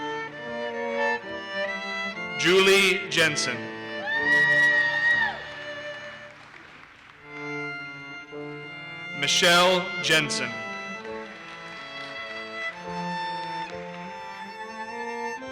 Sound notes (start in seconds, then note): 4.0 audience cheers and applauses; 11.0 audience applauses